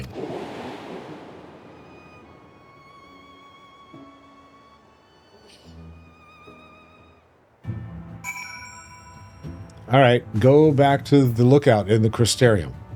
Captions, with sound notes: (whooshing) (bell ringing) All right, go back to the lookout in the Crysterium.